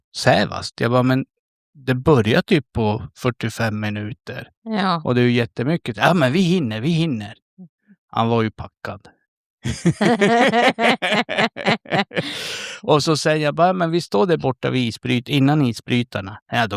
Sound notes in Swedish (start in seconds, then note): 9.6 skratt